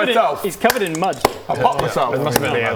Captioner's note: pop!